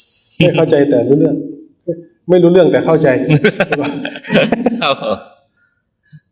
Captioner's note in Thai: เสียงหัวเราะ